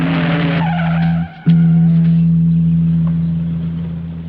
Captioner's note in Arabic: صرير الإطارات